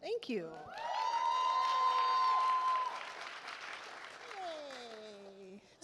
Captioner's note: attendees applaud